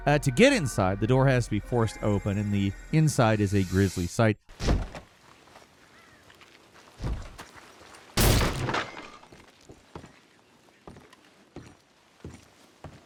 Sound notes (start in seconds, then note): 4.6 wood thumping; 5.8 crow cowing; 8.1 wood crashing; 10.1 footsteps plodding; 12.8 floorboard creaking